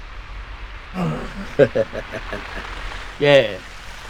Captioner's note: gunman laughs